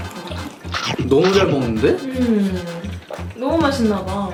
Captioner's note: bites